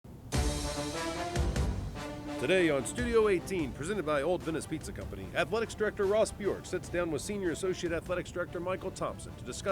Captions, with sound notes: - [Voiceover] Today, on Studio 18 presented by Old Venice Pizza Company, athletics director Ross Bjork sits down with senior associate athletics director Michael Thompson